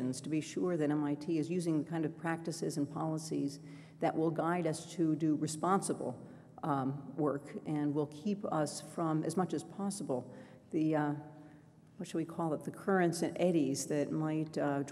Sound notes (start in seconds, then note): none